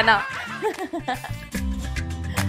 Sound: laughs

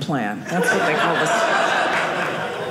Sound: audience laughing

